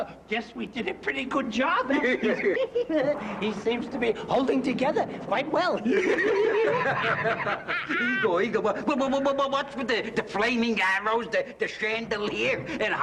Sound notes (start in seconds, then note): 5.8 laughter